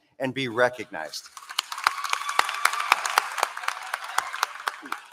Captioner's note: applause